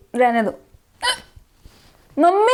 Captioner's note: hiccup